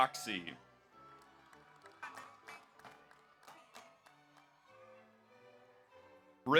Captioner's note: audience applauds; audience cheers